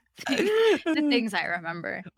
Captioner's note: laughing